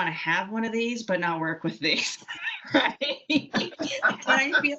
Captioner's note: laughing